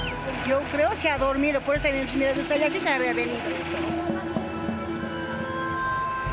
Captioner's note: observer speaking in foreign language